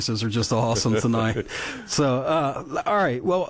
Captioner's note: both laughing